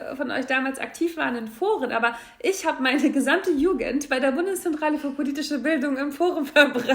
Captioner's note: lacht